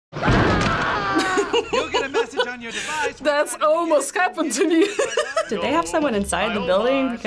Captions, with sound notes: - (man screams) - (laughs) That's almost happened to me. - Did they have someone inside the building?